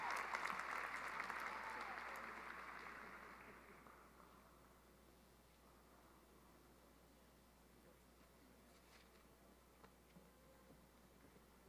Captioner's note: cheering and applause